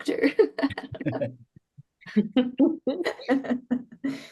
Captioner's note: all chuckle